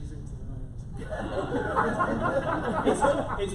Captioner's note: laughter